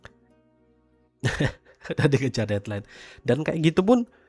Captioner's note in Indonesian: tertawa